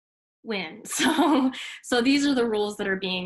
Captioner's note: chuckles